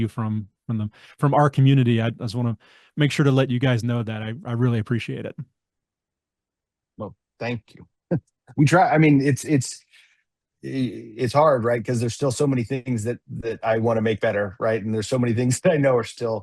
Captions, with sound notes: from, from the, from our community, I, I just wanna make sure to let you guys know that. I, I really appreciate it. Well, thank you. (laughs) We try. I mean, it's, it's, ih- it's hard, right? 'Cause there's still so many things that, that I wanna make better, right? (laughs) And there's so many things that I know are still-